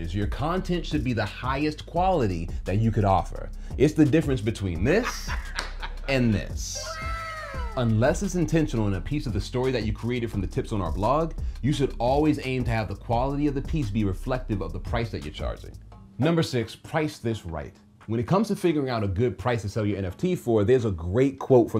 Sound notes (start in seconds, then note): 4.8 man laughing; 7.0 voiceover